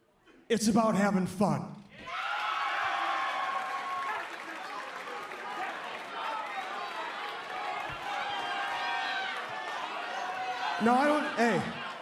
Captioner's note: cheers and applause